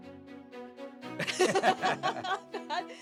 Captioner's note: laugh